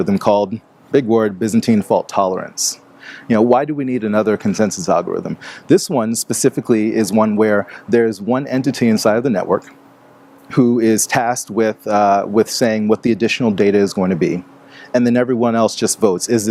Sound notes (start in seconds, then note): none